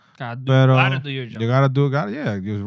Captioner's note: speaking Spanish